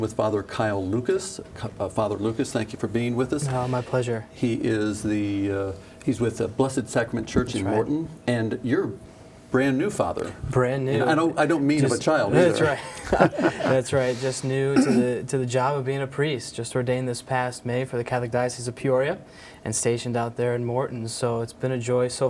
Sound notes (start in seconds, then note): 14.3 laughing